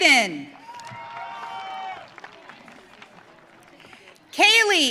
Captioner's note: audience cheering